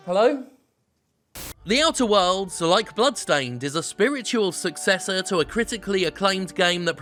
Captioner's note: static